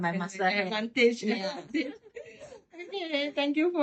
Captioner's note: laughs